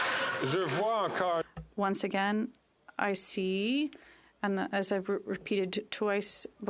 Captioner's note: some Applause